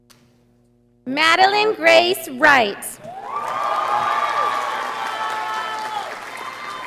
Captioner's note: audience applauding